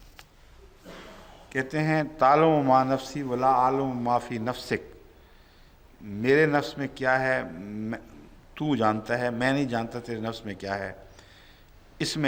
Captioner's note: Arabic